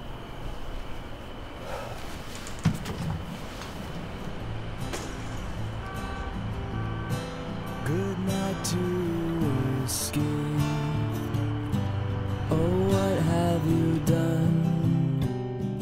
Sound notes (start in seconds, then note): 0.3 crickets chirping; 4.9 glass breaking